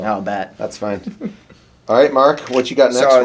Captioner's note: laughs